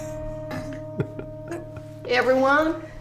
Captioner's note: giggling